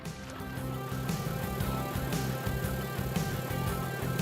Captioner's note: motor running